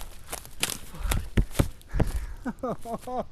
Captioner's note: taps camera